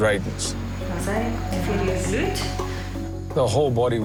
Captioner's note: woman speaking in foreign language